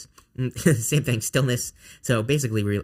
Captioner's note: laughing